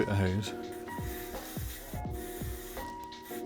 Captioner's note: spraying